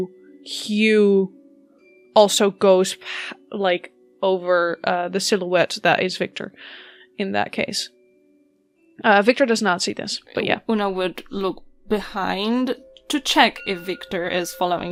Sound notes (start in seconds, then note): 10.6 chiming sounds of bell tolling